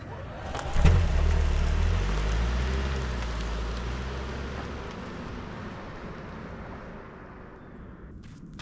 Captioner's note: car engine revving